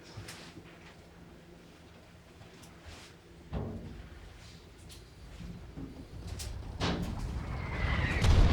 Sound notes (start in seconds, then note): 4.4 faint gunfire popping; 6.0 missile whooshing